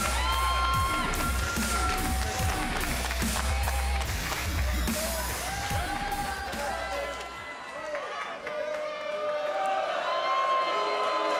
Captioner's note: cheers & applause